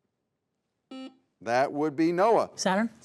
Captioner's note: buzzer beeps